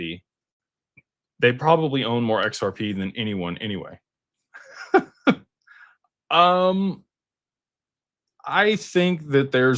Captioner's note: laughter